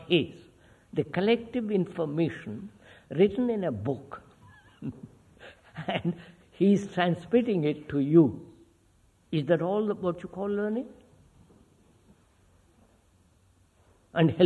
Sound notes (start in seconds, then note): 4.4 laughs